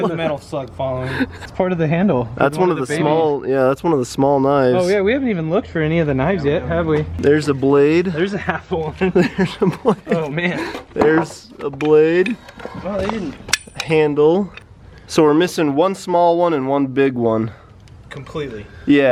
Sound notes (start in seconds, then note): 8.8 laughing